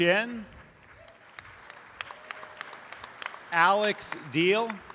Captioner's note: audience applause